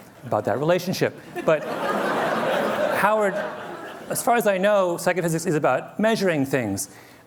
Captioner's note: laughter